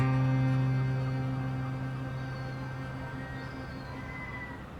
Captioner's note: seagulls squawking